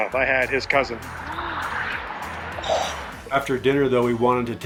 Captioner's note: gasps